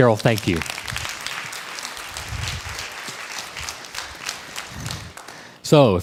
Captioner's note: crowd applause